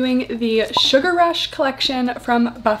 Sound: bubble popping

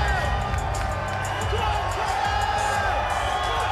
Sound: cheering

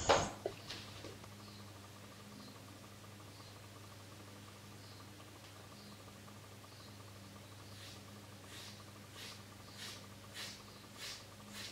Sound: hair cutting sound again

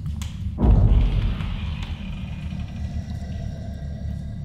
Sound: door creaking

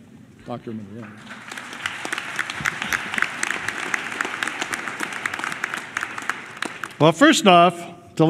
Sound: applause

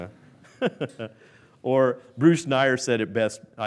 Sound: laughs

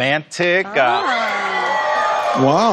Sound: cheering

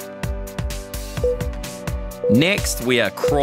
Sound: timer beeping

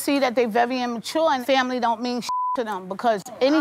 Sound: beep

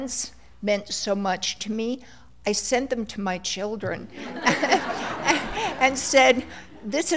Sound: laughter

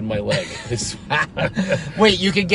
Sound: laughing

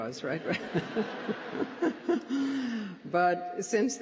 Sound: laughter

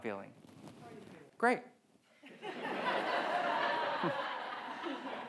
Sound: audience laughs

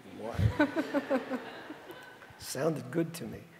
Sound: audience laughing

